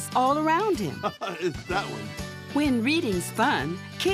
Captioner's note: laughs